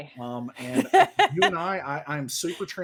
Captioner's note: laughs